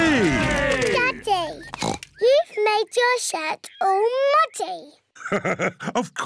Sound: oinks; laughs

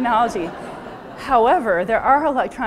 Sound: crowd laughs

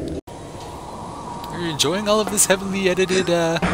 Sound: footsteps

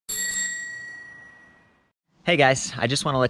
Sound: bicycle bell rings

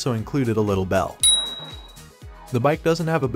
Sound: bell sound

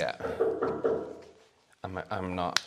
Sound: ghost's a'knocking

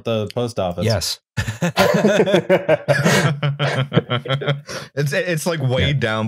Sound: laughter

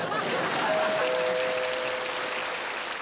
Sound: audience laughing; doorbell rings

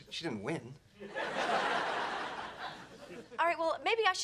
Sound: audience laughing

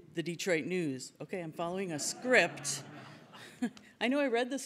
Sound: audience laughs

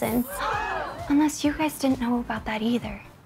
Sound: crowd gasps

